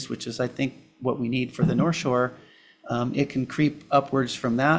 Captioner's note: none